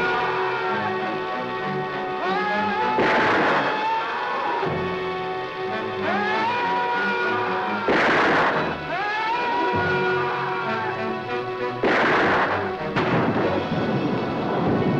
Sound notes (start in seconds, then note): 2.1 Mac Screaming